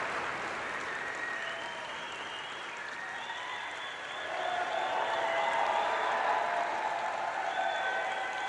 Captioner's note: applause